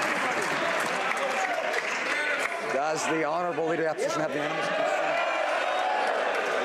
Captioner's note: some Applause